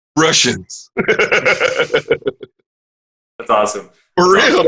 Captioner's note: laughing